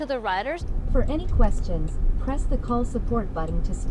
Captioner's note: automated voice in car